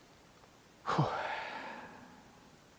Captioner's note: sigh